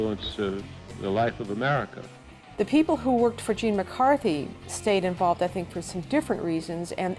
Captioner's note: none